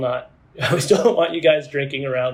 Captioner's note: laughs